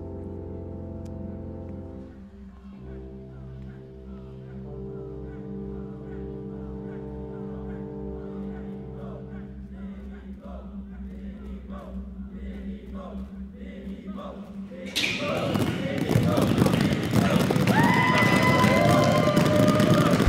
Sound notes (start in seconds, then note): 1.6 Crowd chanting "Conrad!"; 14.9 pounding on mat; 16.9 cheering